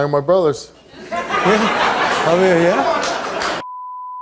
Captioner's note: audience laughs